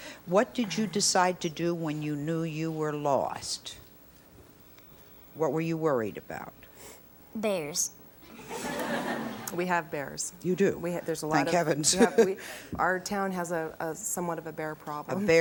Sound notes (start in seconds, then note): 8.3 audience laughs; 11.9 laughs